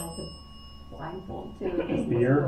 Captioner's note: bell dings